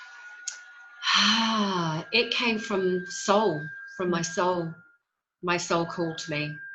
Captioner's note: exhales